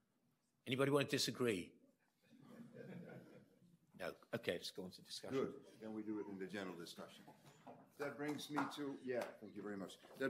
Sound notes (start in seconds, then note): 2.4 audience laughs